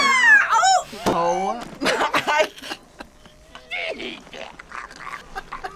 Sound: screams; laughs

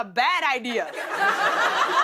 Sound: laughter

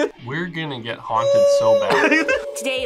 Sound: laughs; ghosts howling

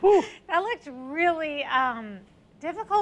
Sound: laughs

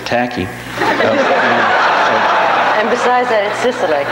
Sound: audience laughs

